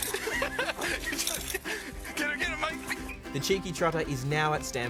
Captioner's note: laughs